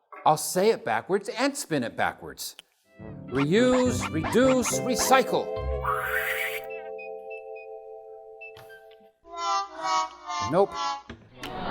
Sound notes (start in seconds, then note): 5.9 woosh!